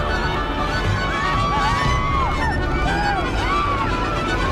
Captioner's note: riders screaming